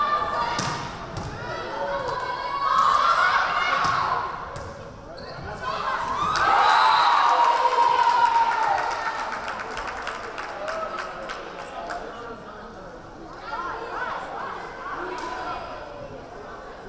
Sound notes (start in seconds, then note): 6.0 crowd cheering; 6.5 whistle blaring